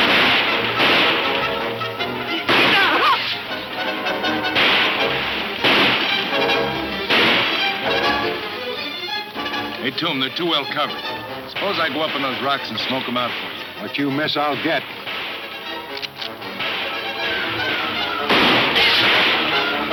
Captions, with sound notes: - Hey Tomb, they're too well covered. Suppose I go up on those rocks and smoke 'em out for you. - What you miss I'll hit. (guns firing)